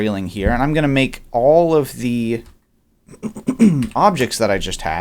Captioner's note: clears throat